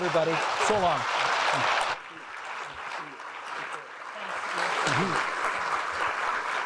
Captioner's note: audience applauding